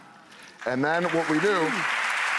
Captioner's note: audience applause